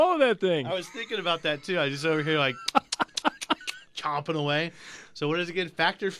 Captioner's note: laughs; chews gum loudly